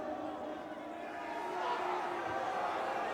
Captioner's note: crowd boos